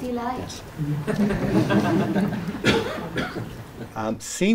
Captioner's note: laughter